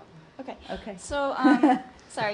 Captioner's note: laughter